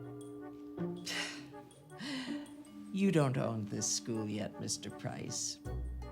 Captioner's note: soft tense orchestral music; scoffs